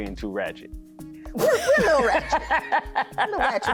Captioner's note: laughing